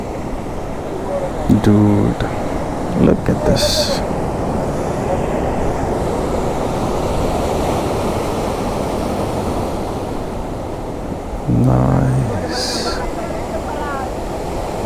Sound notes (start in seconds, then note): 4.3 waves crashing on the rocky beach